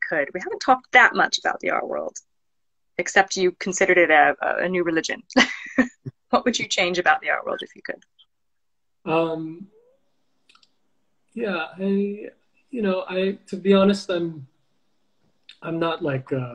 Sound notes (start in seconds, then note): 5.4 laughs